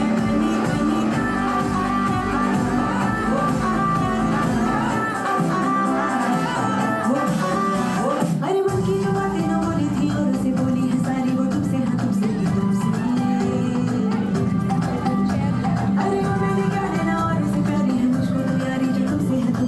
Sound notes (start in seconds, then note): 0.2 children chattering; 12.3 children chattering